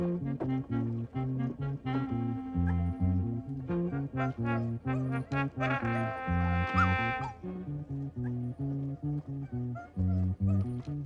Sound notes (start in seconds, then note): 2.6 William yelping quietly; 8.1 dramatic music